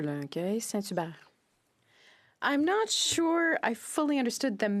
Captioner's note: speaking French